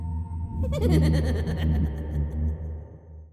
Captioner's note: creepy giggling